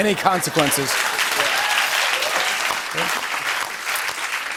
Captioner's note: applause